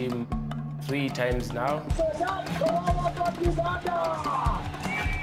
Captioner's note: commentator shouting